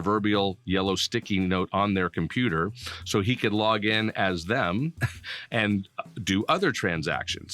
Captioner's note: laughing